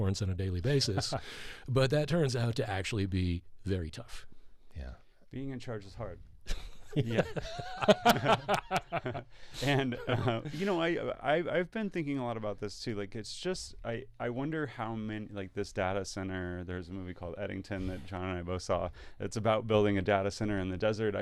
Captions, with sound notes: on a daily basis, but that turns out to actually be very tough. Yeah, being in charge is hard. (laughing) And I've been thinking a lot about this too. It's just, I wonder how many, like this data center, there's a movie called Eddington that John and I both saw, it's about building a data center in the desert.